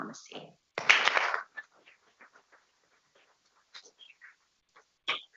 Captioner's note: people clapping